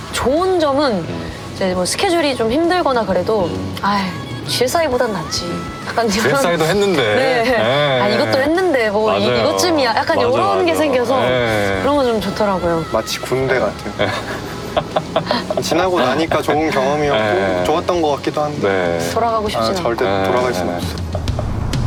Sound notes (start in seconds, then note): 13.6 hahaha; 20.9 hahaha